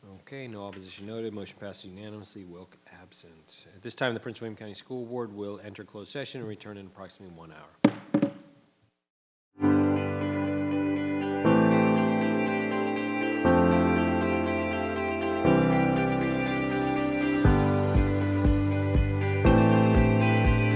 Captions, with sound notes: Okay, no opposition noted. Motion passes unanimously, Wilk absent. At this time, the Prince William County School Board will enter closed session and return in approximately one hour. (gavel thuds) (gentle music)